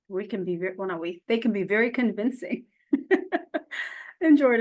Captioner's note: chuckles